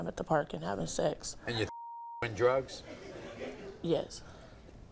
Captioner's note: beep